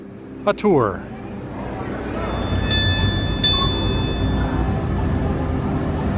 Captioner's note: trolley bell ringing